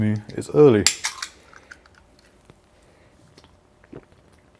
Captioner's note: bottle popping; gulping drink